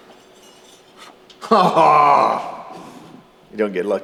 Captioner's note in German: jubelt